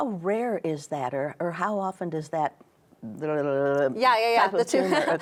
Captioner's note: muttering